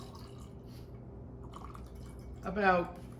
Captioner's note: liquid squirting